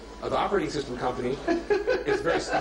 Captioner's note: laughter